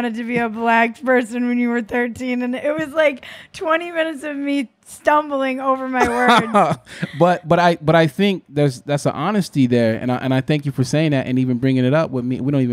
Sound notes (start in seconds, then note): 6.0 laughing